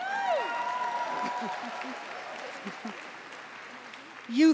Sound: applause

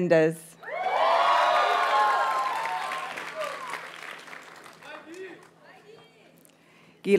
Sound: audience cheers and applauds

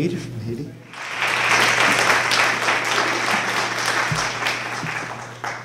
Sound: applause

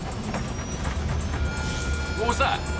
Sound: plane rattles; monitor beeping

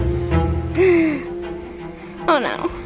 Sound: intense music; breathes frantically

